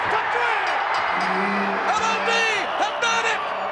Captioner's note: crowd cheers; bell dings